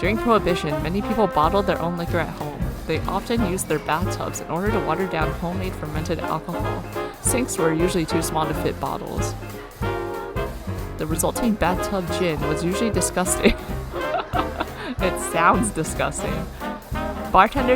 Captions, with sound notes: "The resulting bathtub gin was usually disgusting" [laughs] It sounds disgusting.